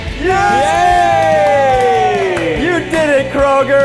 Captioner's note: the guys clap and cheer